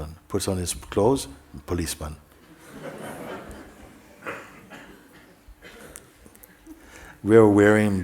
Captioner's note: laughter